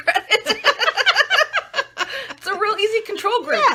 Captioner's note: laughing